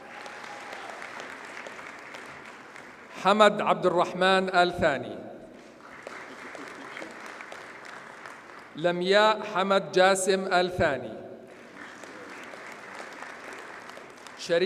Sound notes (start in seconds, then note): 0.0 audience cheers and applauds; 5.6 audience applauds; 11.5 audience applauds